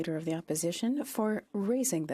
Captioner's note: speaking French